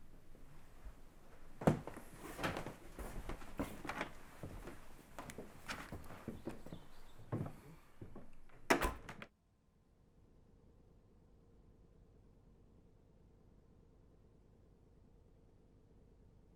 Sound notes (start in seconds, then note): 1.4 door rattling